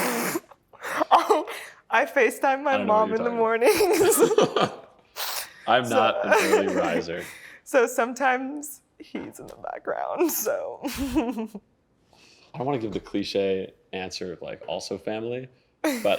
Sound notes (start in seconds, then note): 6.0 laughing